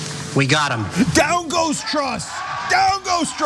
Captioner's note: applause